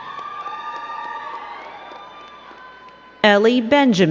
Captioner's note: crowd cheering and clapping